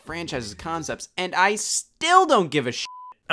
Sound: beep

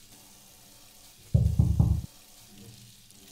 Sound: soft door knock

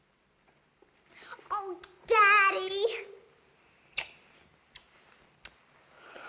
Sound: kissing

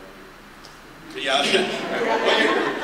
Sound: laughter

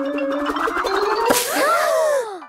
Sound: all gasping

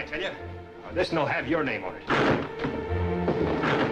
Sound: banging on door

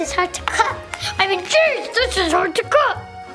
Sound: deep voice

